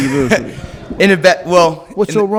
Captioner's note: laughing